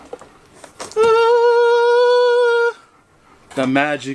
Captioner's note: box opening; angelic sound